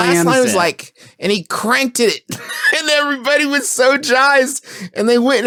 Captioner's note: laughs